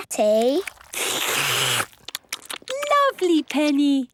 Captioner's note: all slurping